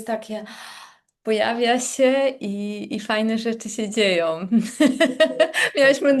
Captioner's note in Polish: śmiech